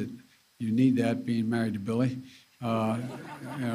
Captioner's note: laughter